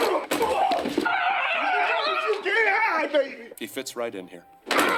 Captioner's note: tackling and grunting; hollering